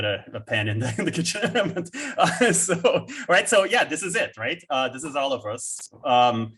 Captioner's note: chukles